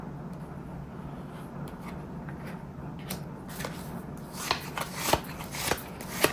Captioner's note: drawing cards